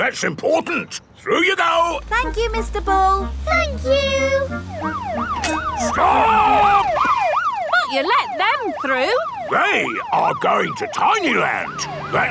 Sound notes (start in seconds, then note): 5.2 siren wailing